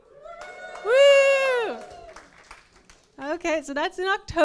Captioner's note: cheers